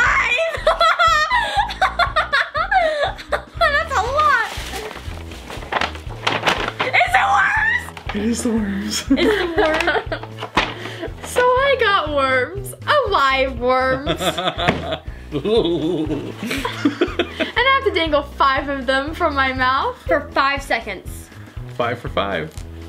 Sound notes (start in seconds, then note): 0.2 laughing; 14.0 dad laughing